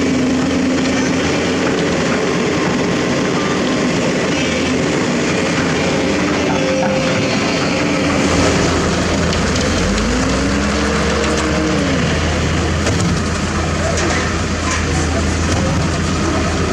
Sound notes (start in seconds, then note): 7.5 pump Sound